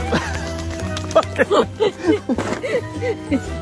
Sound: laughing

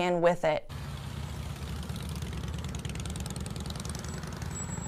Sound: motorcycle engine roaring

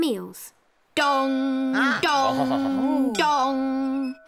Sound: bell dongs

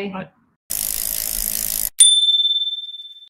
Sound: bell dings

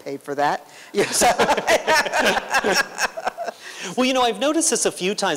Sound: laughter

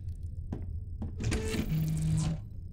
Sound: door opens

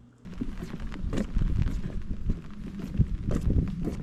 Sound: busy footsteps

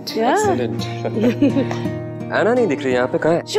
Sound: both laughs

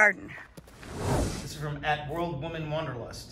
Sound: air whooshing

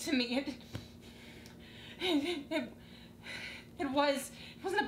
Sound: breathing hard

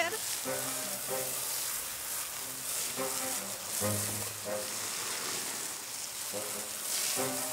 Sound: water sounds

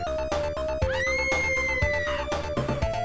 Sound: screams

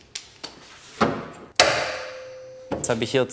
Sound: metal sound

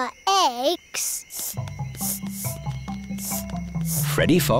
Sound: sniffing

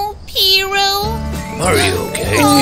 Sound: meows

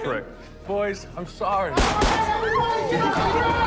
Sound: gunshots

